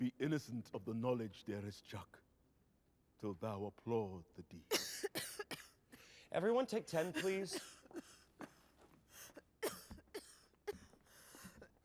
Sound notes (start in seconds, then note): 4.6 coughing